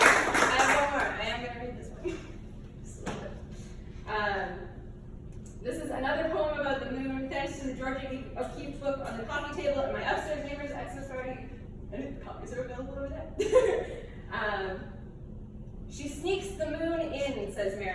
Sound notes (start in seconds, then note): 14.2 laughs